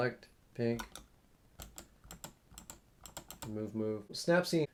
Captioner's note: mouse clicking